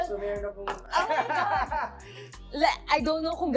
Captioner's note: laughs